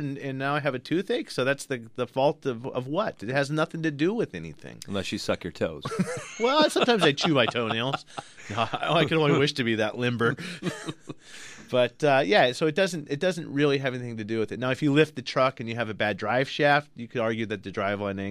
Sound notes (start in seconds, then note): 5.8 laughs; 10.2 both laugh